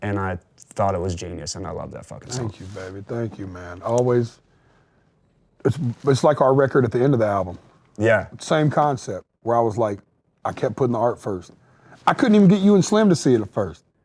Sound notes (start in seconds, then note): none